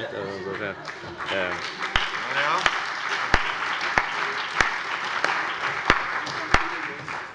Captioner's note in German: Heiterkeit und Beifall